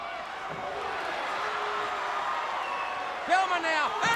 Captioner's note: crowd cheering